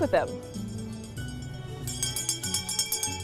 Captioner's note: bell ringing